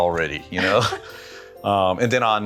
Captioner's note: chuckles